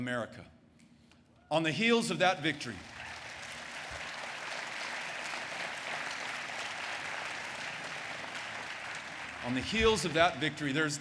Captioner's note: applause